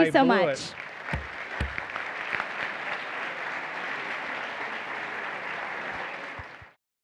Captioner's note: applause